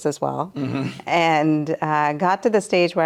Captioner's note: chuckling